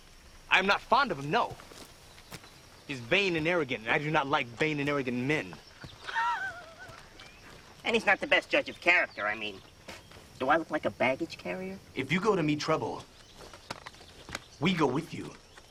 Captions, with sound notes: - I'm not fond of him, no. He's vain and arrogant and I do not like vain and arrogant men. (laughing) - And he's not the best judge of character. I mean... Do I look like a baggage carrier? - If you go to meet trouble, (light slaps) we go with you.